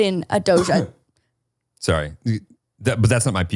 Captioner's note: coughing